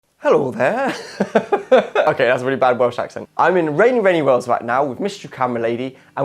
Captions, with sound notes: (Bad accent) Hello there! (laughing) Okay that was a really bad Welsh accent I'm in rainy, rainy Wales right now with mystery camera lady